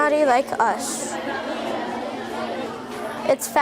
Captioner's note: students chattering